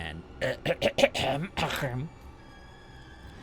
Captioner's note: clears throat